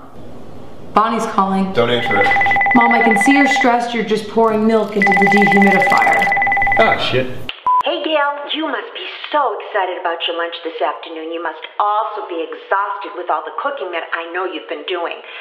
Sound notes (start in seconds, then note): 1.8 phone continues ringing; 7.7 nibbles